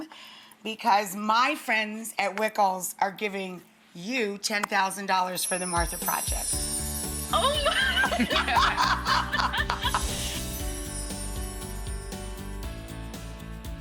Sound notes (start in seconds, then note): 7.4 laughing; 9.6 upbeat music